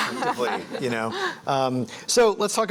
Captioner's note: laughs